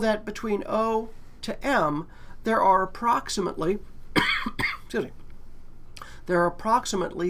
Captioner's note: cough